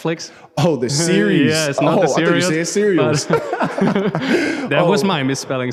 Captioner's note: lacht